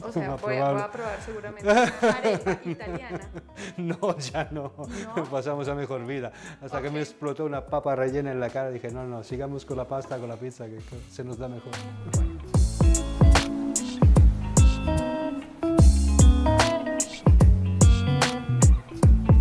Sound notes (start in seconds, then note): 4.1 laughs